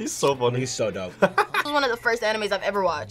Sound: laughs

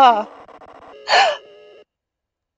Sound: gasp

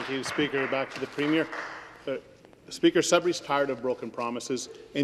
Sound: some Applause

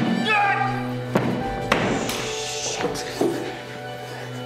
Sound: Alister screaming

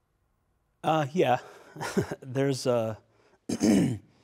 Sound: chuckling

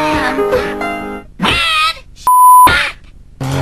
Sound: beep

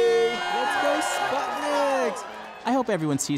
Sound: cafe goers cheer for Sputniks

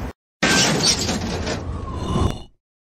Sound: crash

